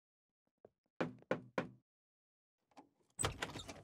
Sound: knocking

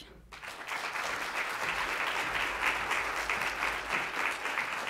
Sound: audience applauds

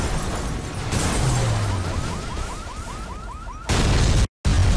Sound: car crashing; car alarm blaring

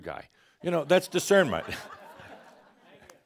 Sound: some chuckles

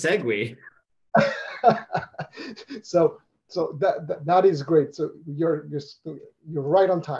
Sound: laughs

